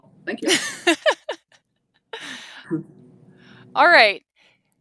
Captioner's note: laughs